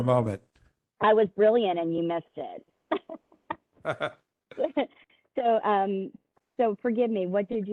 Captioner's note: laughter